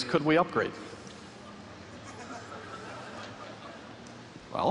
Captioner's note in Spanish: Risas